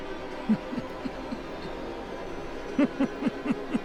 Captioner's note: laughing